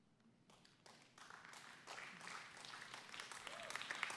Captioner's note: applause